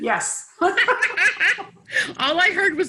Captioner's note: laughs